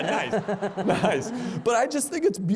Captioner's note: laughter